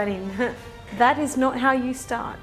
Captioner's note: chuckles